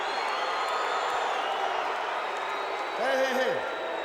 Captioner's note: crowd cheering